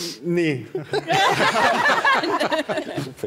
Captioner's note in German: Lachen